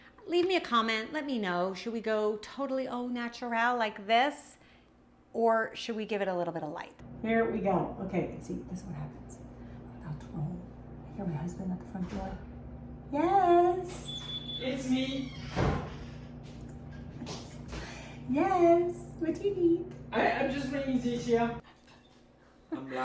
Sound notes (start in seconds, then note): 13.9 door creaks open; 16.7 laughs